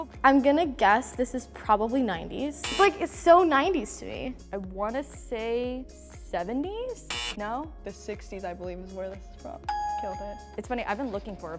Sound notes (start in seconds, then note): 2.6 buzzer; 7.0 buzzer; 9.7 ding